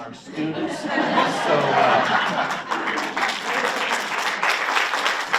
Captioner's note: audience laughs and applauds